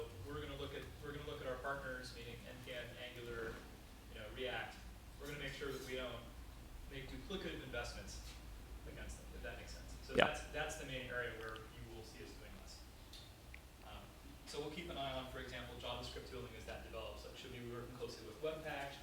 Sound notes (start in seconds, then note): 11.0 voiceover